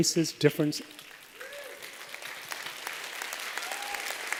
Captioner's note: applause